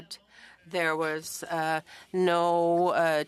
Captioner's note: speaking French